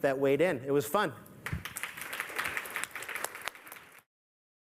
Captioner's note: applause